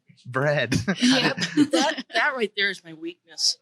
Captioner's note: laughs